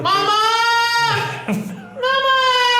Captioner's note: laughing